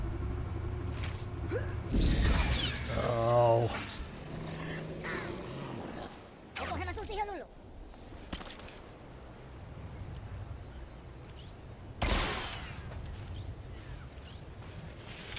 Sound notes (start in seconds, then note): 6.5 speaking foreign language; 9.4 gun firing